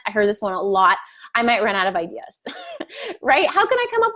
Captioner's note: laughs